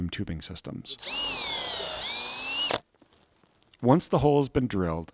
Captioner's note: drill whirring